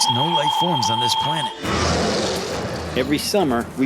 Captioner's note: roaring